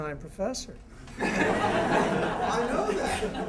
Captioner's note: laughter